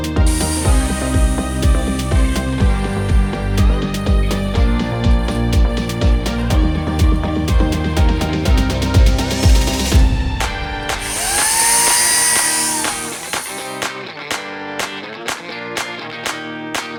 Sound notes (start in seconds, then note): 0.6 chainsaw sound; 10.9 chainsaw sound